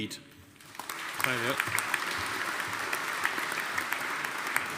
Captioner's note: audience applauding